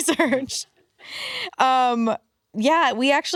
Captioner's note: laughs